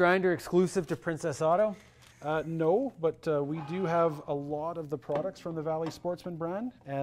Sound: none

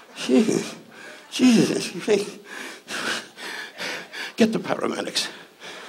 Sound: groans; panting

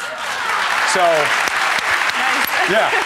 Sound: audience cheering

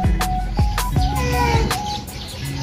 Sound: Mapa Meowing

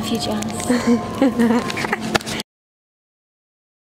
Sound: laughing

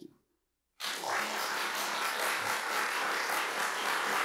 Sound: applause

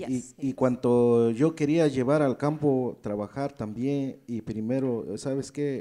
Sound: speaks in foreign language

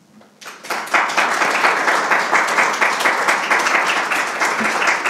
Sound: audience applauding

